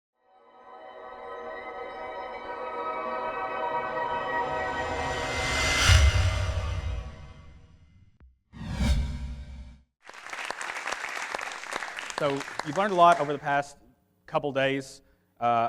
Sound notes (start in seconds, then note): 0.2 calm music; 10.0 audience clapping